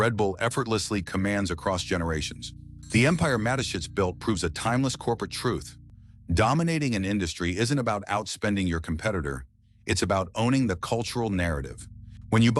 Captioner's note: SFX: cinematic bell chime